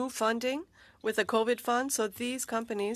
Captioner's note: speaking French